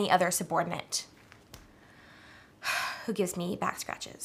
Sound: sigh

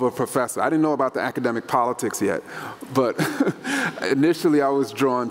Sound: laughs

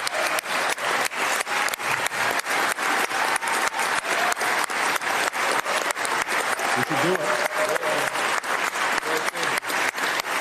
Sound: applause

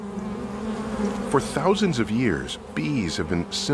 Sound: zumbido de abejas

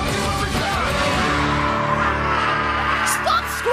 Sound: screaming

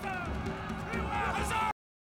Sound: all Cheering

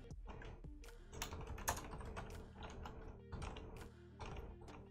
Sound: keyboard clattering

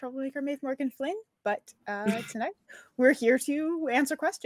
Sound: chuckles

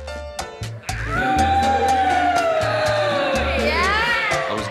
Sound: howling, boys approving

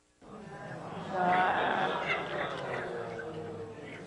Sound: groans

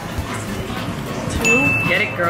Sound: ringing sound

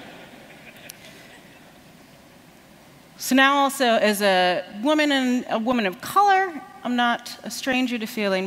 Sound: laughter

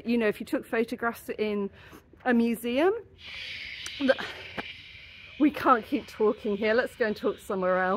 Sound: screaming gulls

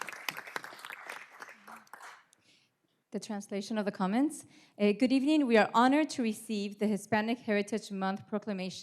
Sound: applause

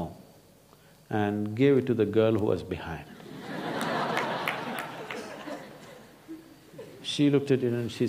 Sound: laughter

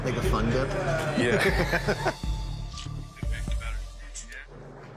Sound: laughing

